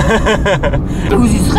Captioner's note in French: rires